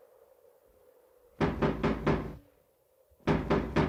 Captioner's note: knocking continues